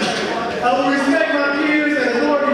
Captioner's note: audience speaking